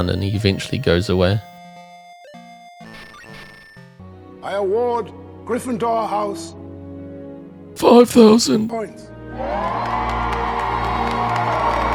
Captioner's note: applause